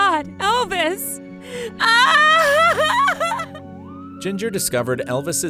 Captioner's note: starts to cry